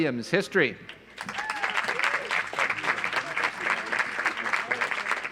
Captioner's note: audience applauds